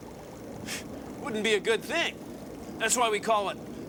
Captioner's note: scoffs